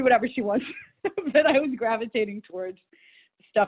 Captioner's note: laughs